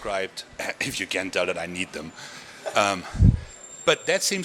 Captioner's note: chuckling